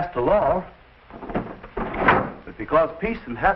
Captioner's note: drawer rattling